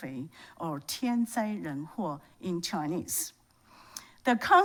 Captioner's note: speaks Chinese